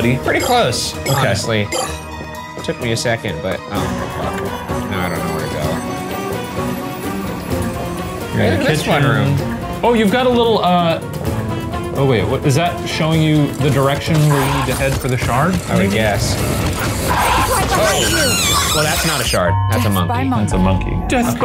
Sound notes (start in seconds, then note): 16.6 Murder Monkey screeching